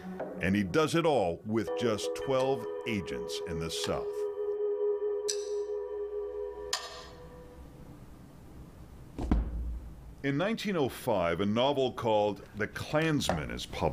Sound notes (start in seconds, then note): 7.2 chilling music; 9.2 book bangs